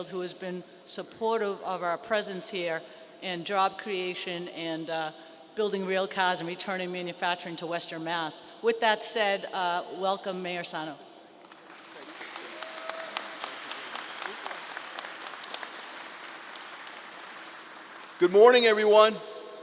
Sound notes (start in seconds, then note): 11.5 crowd applause